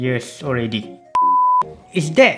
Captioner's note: beep